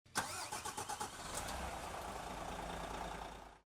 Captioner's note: coach engine starts